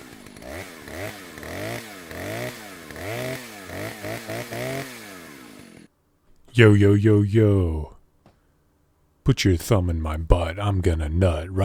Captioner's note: chainsaw noises